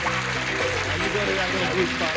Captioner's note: applause